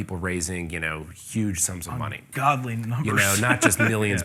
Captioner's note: laughs